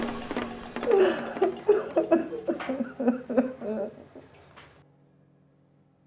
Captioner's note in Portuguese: choro